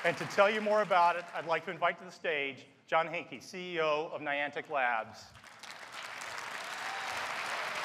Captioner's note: applause and Cheering